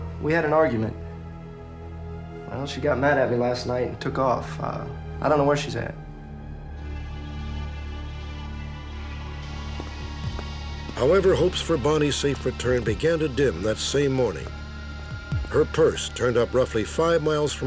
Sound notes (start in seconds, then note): none